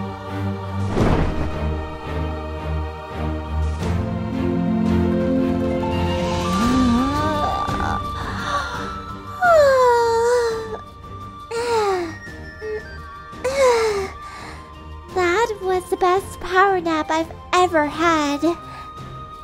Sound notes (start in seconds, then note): 6.4 yawwwwn!!!